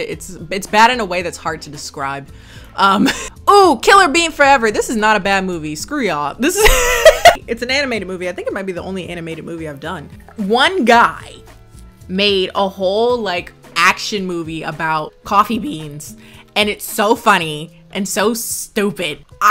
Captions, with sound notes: it's bad in a way that's hard to describe. Ooh, Killer Bean Forever. This is not a bad movie, screw y'all. (laughs) It's an animated movie. I think it might be the only animated movie I've done. One guy made a whole action movie about coffee beans and it's so funny and so stupid.